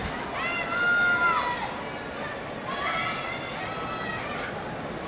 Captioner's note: audience shouting and cheering